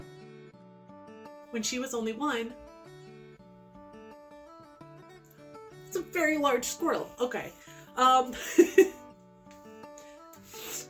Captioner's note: laughs